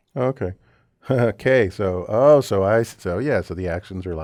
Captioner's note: laugh